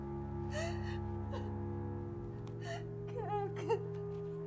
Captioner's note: Lock crying; cries